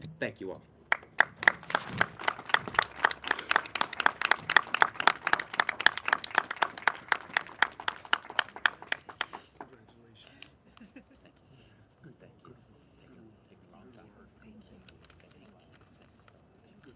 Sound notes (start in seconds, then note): 0.9 applause